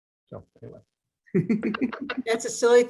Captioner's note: laughs